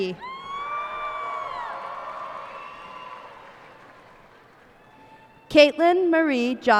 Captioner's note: cheers and applause